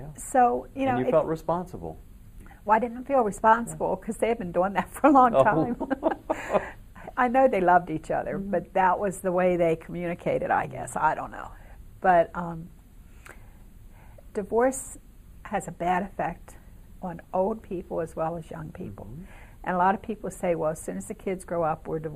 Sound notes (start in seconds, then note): 5.3 chuckles